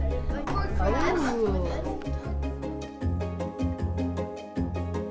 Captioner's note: students chattering